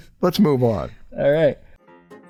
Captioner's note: none